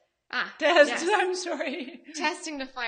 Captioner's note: laughing